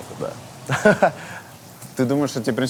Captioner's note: laughs